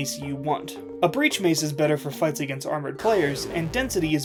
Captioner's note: armor loudly disappearing